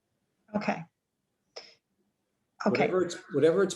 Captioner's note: woman Speaking